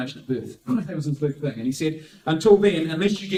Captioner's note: gasp